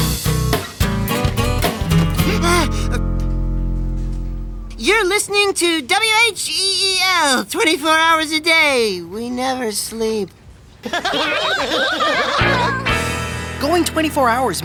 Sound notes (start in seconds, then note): 2.0 gasping; 10.8 laughing